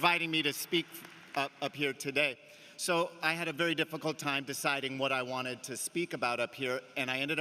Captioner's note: cheering and applause